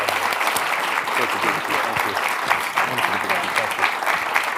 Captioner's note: audience clapping